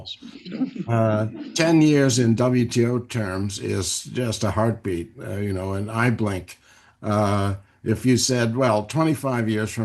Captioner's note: laughter